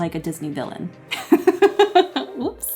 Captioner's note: laughs